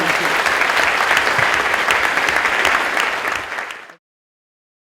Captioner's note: audience applauding